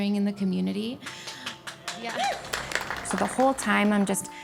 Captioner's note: all applauding